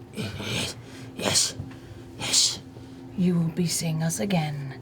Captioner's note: none